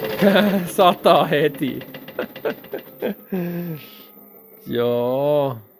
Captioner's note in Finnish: naurua